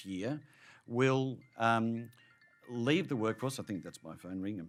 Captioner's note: ringtone